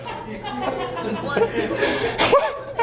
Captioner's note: laughter